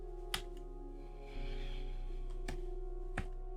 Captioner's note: sigh